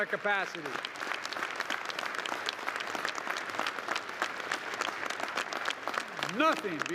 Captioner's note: applause